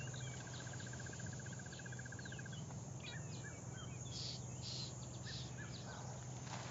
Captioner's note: birds and insects chirp and hum